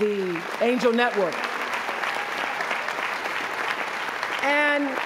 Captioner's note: applause